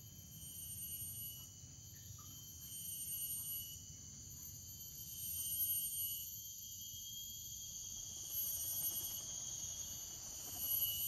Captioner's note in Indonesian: suara serangga